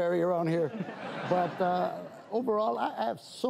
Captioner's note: audience laughs